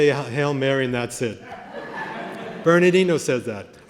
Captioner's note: laughter